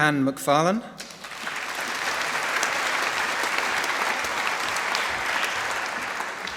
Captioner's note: applause